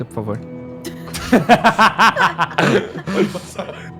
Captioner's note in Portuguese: risada